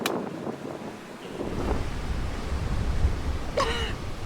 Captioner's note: sound - strong winds